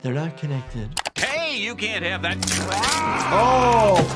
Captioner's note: yells